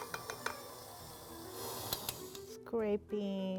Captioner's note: mixer whirring